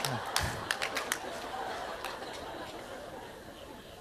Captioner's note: audience laughter